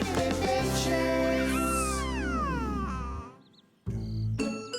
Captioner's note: baby cooing